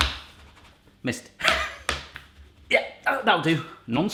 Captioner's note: laughs